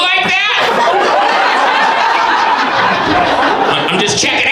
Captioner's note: audience laughs